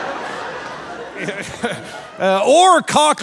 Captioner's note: audience laughing; laughing